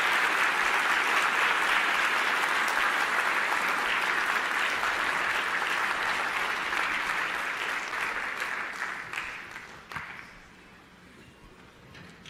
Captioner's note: applause